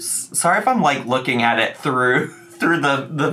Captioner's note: chuckles